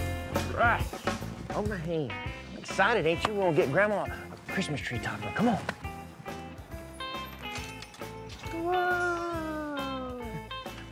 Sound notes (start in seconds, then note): 7.0 door opens